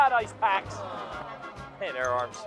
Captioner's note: people exclaiming